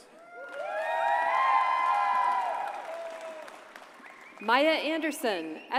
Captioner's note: audience cheers and applauds